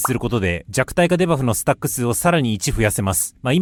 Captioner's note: interference